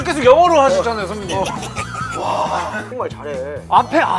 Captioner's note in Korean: 웃음